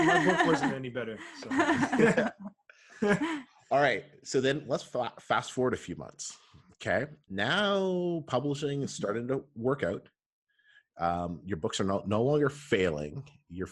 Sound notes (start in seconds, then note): 0.0 laughs; 1.3 laughter